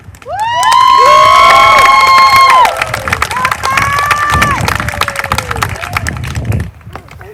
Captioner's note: applause